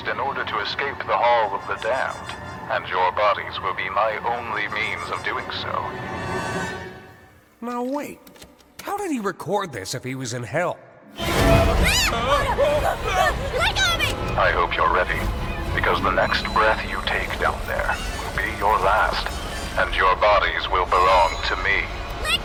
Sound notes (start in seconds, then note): 11.2 shrieks; 13.9 wailing